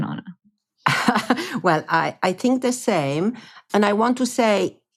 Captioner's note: chuckles